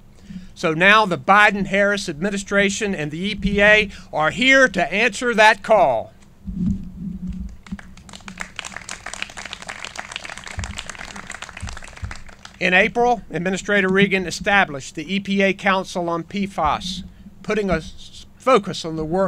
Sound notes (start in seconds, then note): 7.6 clapping